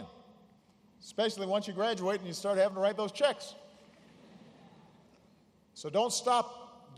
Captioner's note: laughter